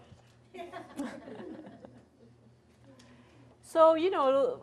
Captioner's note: audience laughs